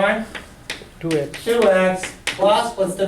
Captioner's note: voiceover